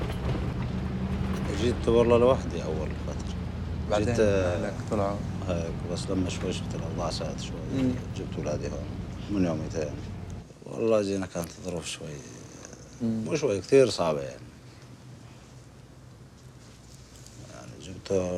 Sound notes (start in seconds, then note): 1.8 man speaking foreign language